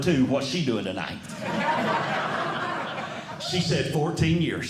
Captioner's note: audience Laughing